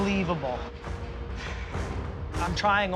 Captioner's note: sighs